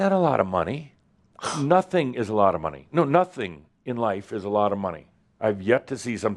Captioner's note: scoffs